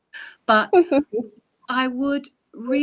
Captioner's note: laughing